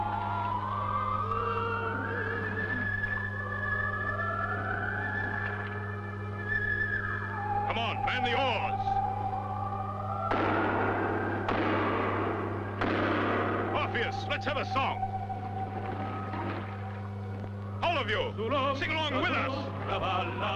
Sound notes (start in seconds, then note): 0.2 eerie ambient music; 10.0 hammering